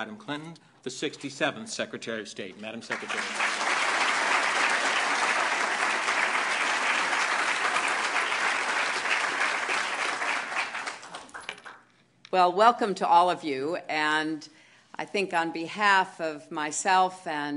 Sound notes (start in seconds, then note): 6.7 applause